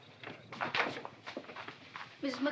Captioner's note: door opens